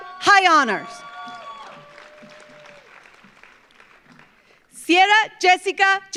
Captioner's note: audience cheers; audience applauds